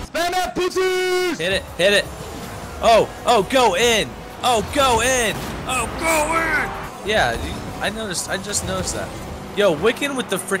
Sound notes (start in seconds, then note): none